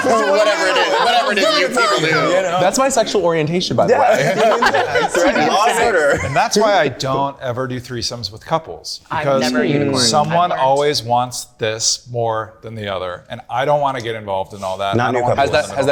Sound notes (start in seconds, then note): 3.8 group laughing